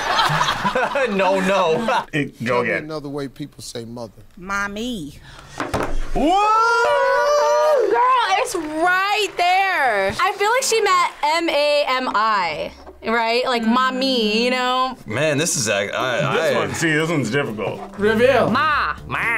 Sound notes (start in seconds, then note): 0.1 laughs; 6.2 both yell